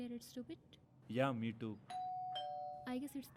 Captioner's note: doorbell rings